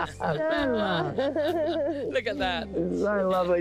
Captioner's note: both chuckle